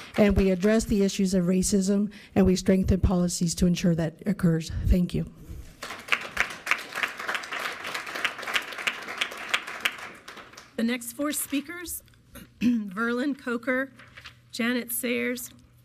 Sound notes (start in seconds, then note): 5.7 audience clapping